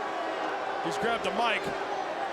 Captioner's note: crowd boos